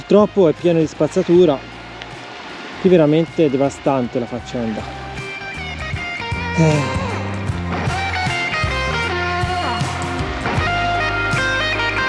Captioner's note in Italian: Applauso